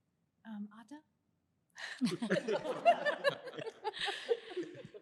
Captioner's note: laughter